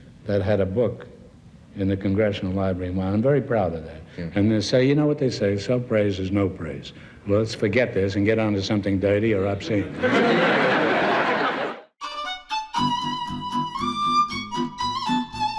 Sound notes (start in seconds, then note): 9.8 audience laughs; 12.0 jazz music